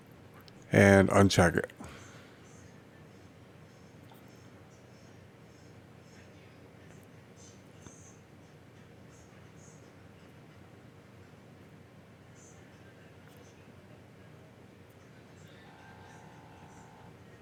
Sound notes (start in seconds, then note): 2.4 silence